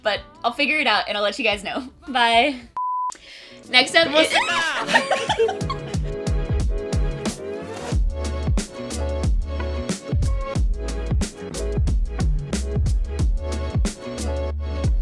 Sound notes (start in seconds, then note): 4.4 arGhhHHhh